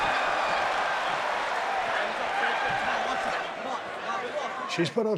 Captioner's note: crowd continues cheering